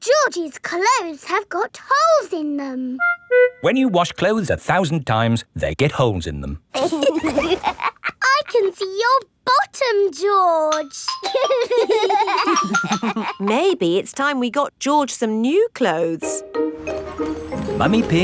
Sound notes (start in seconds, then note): 6.7 laughs; 11.2 giggling